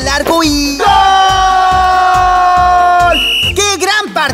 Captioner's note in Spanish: Sonido de silbato